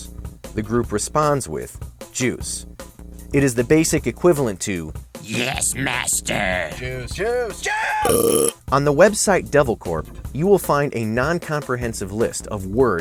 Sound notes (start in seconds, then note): 4.8 creepy voice; 6.6 shouting; 7.7 belch sound